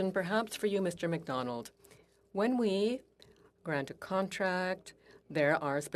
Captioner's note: speaking French